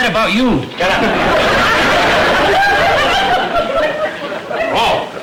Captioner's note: audience laughter